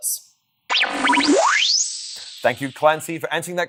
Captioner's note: tape whirring